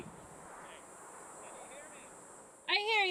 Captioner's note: echoing